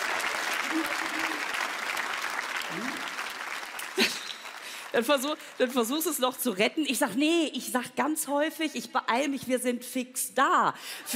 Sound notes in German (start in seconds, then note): 3.7 Lachen